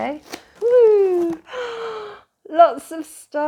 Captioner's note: gasp